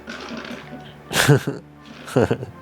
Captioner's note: laughs; soft music